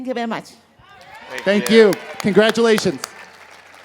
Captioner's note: crowd cheers